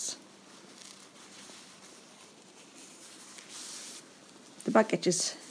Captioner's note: fabric rustling